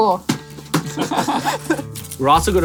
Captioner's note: laughs